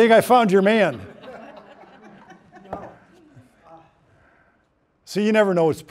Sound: laughing

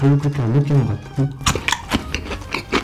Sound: chomp

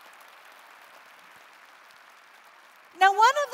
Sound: applause

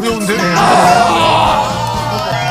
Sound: sounds of a grown man screaming in pain

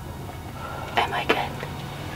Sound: whispering

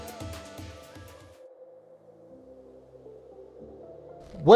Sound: wind howls lightly in background

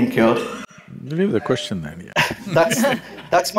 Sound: laughs

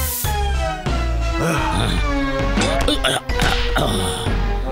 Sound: laughing

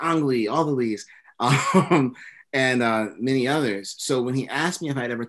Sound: laughs

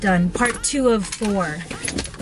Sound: none

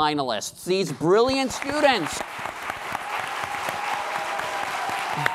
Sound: applause

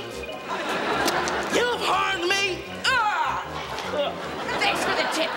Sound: groaning

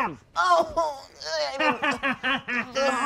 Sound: groans; laughs

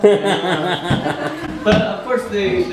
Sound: laughing

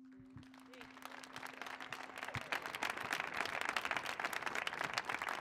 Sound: audience applauding

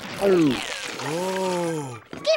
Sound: sighs

